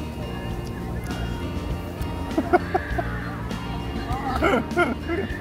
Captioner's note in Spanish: Sonido de lamidas